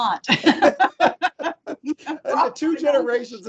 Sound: laughing

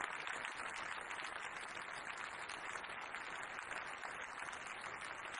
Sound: applause

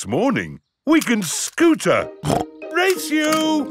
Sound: snorts

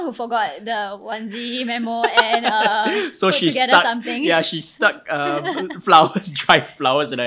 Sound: laughs

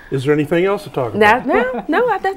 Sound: laughing

